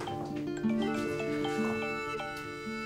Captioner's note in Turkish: Telefon çalıyor